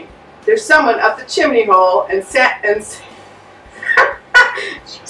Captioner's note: ha ha